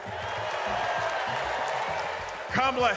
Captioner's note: audience cheers